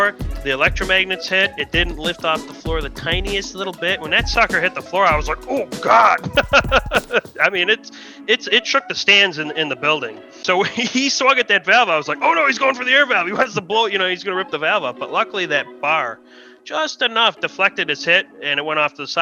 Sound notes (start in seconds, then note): 6.3 laughs